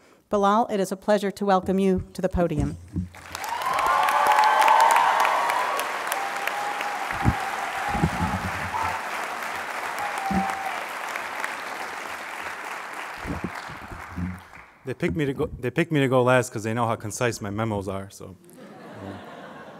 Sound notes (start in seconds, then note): 3.1 applause